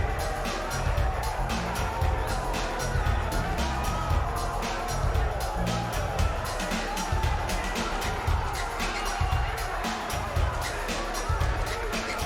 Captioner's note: cheers and applause